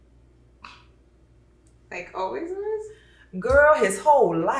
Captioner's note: scoffs